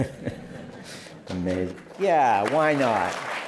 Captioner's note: laughter; applause